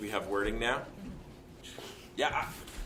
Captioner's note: attendee grunts affirmatively